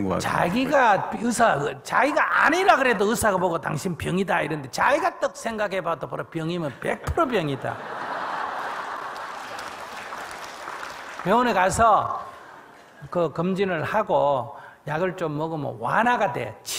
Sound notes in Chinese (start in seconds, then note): 7.2 听众 笑